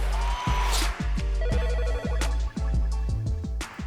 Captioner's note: upbeat music; phone ringing